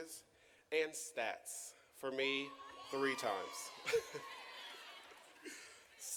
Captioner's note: chuckles